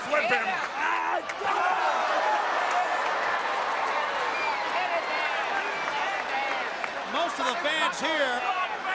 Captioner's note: crowd cheering